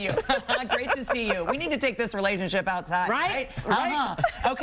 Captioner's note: laughter